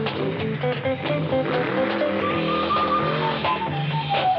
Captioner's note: engine revving